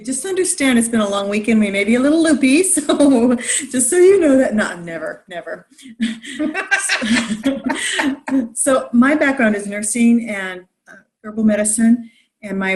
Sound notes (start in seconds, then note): 6.1 laughing